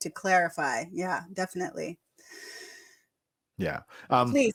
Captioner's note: inhales